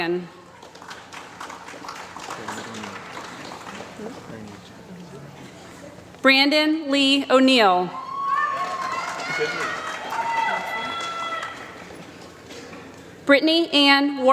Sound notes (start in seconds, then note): 2.8 applause; 8.3 applause